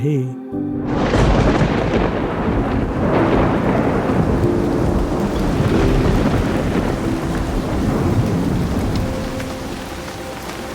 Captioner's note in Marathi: पाऊस, वीजा आणि गडगडाटांचे आवाज ऐकू येतायत